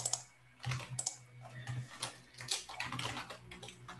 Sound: mouse clicking

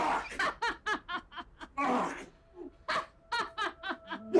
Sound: laughing

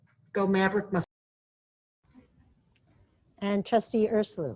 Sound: distorted sound

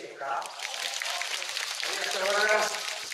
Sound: applause

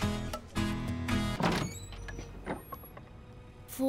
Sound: door opens

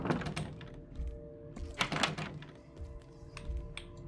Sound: door Rattles

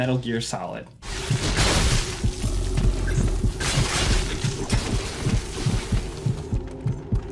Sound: heart racing; swords slicing

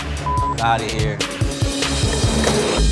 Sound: beep

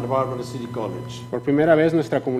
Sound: speaking foreign language

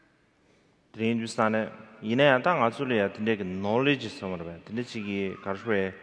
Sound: speaking in foreign language

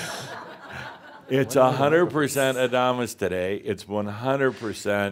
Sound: laughter

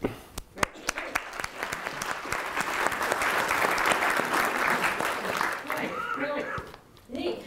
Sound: applause

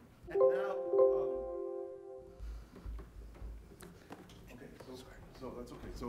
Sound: computer ringing

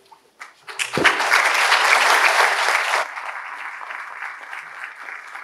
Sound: audience applauding

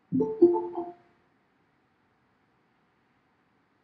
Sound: computer chimes

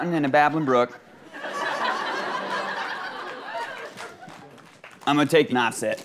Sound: audience laughing

